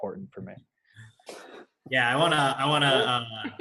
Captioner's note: laughing